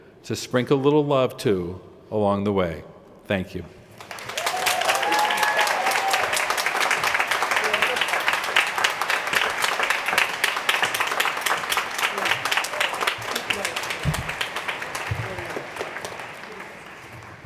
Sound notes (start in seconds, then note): 3.7 applause